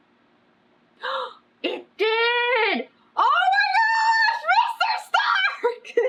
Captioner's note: gasps; laughs